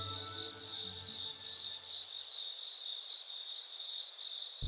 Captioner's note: crickets chirping